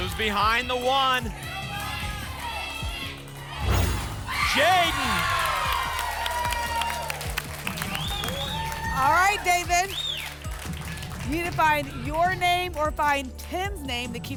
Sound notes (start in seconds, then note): 2.6 audience chanting "jaiden!"; 6.1 applause and cheering